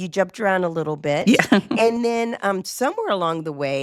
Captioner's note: chuckles